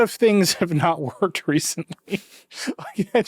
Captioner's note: chuckles